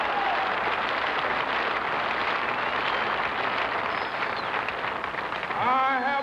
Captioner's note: cheering and applause